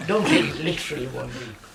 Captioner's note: laughs